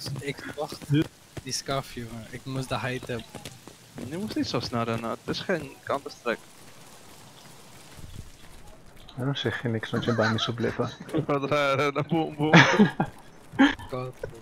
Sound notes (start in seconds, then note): 12.1 boom boom boom